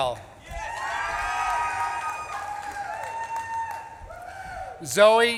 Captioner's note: audience claps and cheers